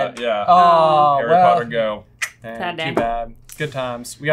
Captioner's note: tongue click